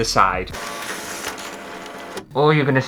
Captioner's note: scanning Sounds